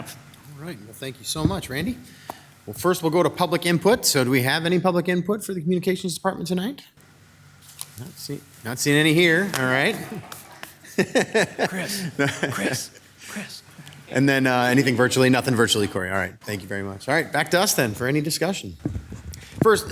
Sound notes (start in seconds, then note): 10.8 laughing